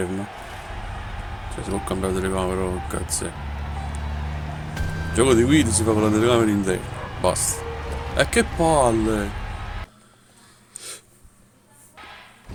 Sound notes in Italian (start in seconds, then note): 10.3 Applauso